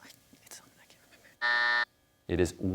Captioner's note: whispers; buzzer sounds